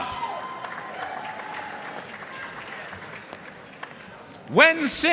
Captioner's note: audience cheering and applauding